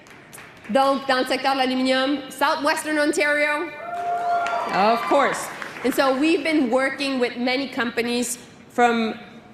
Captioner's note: cheering